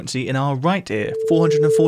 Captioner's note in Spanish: tono